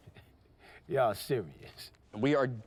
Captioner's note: chuckles